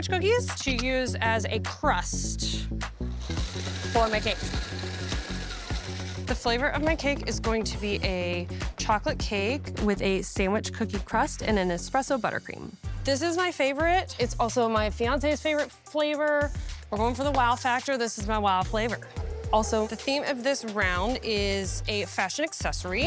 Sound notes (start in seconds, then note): 3.2 food processor whirs; 4.2 upbeat music